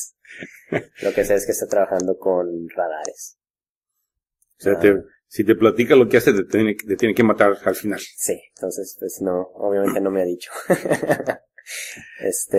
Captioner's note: laughs